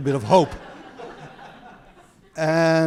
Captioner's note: audience laughing